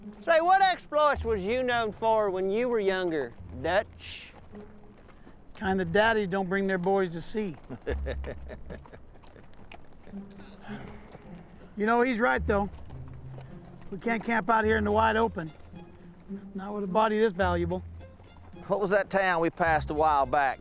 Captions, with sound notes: Say, what exploits was you known for when you were younger, Dutch? Kind that daddies don't bring their boys to see. [Waco Kid chuckling] You know, he's right though. We can't camp out here in the wide open. Not with a body this valuable. What was that town we passed a while back?